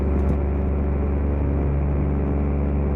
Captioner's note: motor hum